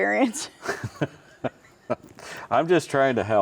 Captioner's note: laughs